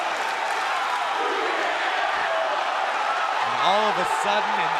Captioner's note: fans chanting